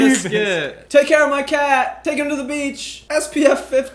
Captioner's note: imitating Milo